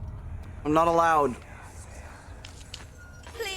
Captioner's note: whispers whispering